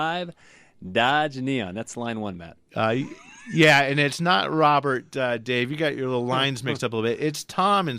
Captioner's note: laughs